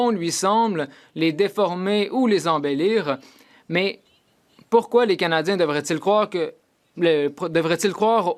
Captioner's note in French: voix de l'interprète